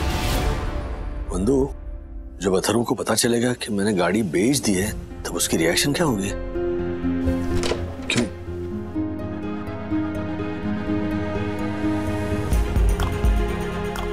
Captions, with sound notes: Vandana, how will Atharva react, when he comes to know that I've sold the car? [Door opening] [Tense music]